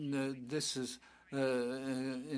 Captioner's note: speaking French